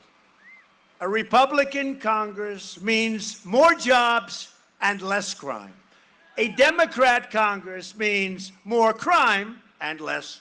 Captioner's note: cheering and applause